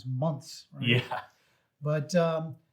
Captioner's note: chuckles